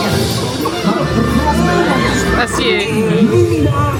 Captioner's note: characters chattering and laughing